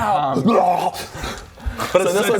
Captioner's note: hrghh!